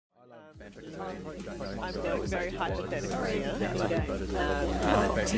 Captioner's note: people conversing loudly